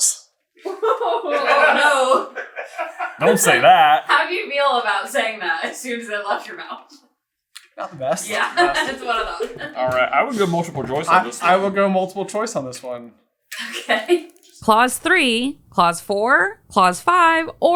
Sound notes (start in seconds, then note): 0.6 laughter; 0.8 cracking up; 13.6 giggling